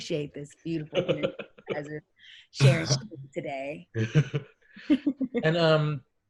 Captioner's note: static drowns out